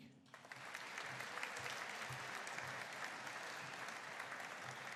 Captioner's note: audience applauding